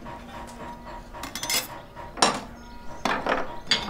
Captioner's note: metal scraping and hammering